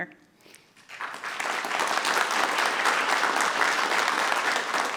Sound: audience clapping

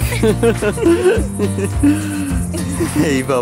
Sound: laughs

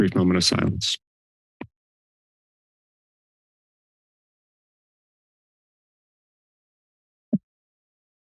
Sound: silence

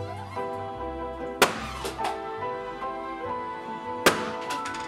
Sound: balloons pops

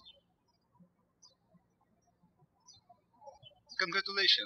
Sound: birds chirping

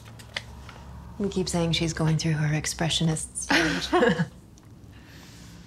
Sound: both laugh

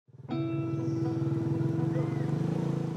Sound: birdsong, quad bike hums

